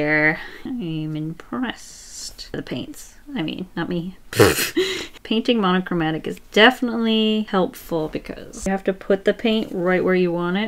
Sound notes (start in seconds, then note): 4.4 laughs